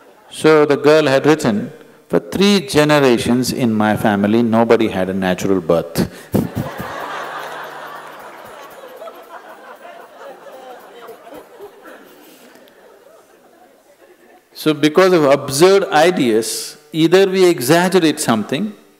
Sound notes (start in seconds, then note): 11.8 laughter